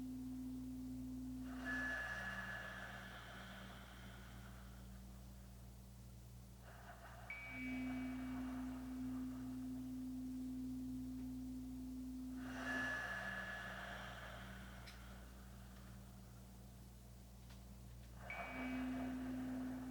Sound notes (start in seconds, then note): 4.7 chimes ringing continues; 4.7 slow breathing continues; 14.8 chimes ringing continues; 14.8 slow breathing continues